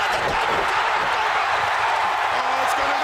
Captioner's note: cheering